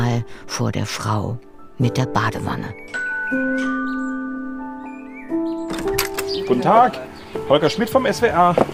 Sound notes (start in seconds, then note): 2.9 doorbell; 5.6 door opens